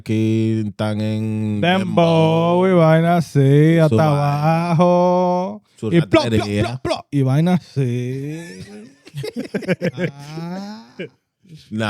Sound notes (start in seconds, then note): 0.6 speaking In Foreign Language